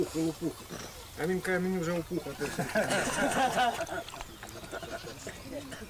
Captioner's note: laughter